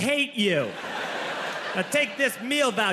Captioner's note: audience laughing